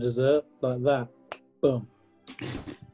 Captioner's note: clicks finger